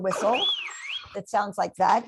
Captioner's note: whistle